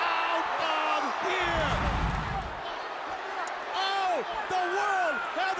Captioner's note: crowd chatter